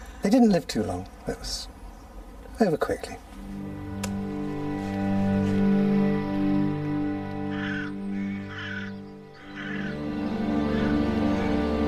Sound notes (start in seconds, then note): 3.7 gentle music; 8.2 birds squawking